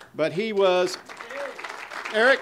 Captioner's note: audience applause